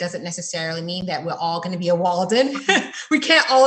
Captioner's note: laughs